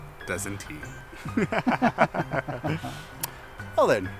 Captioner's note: synchronized laughing continues